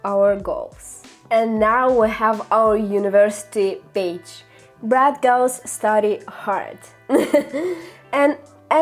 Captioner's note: laughter